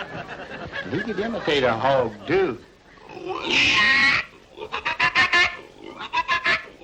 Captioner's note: crowd laughing; imitates hog grunting